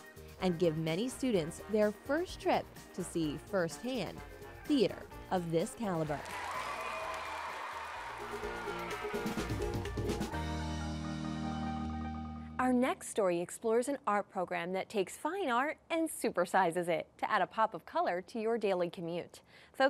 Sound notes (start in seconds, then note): 6.0 cheering, applause